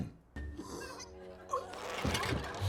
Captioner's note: gasps; light laughter